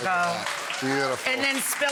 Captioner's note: audience applauding